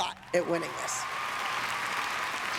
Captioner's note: applause